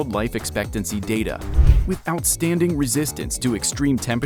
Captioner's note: graphic whooshing